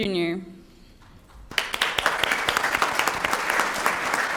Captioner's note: applause